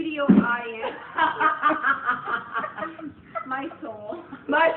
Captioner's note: everyone laughs